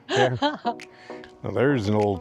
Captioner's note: laughs